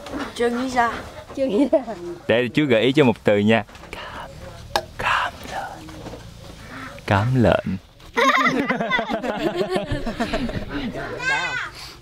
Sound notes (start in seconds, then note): 3.9 whispering